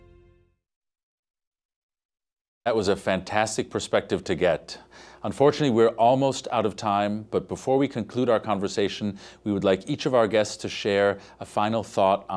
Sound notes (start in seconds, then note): none